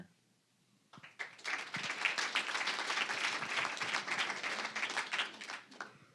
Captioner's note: applause